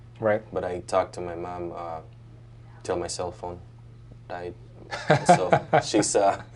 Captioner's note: doctor laughs